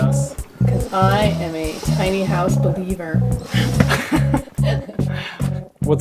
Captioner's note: laughs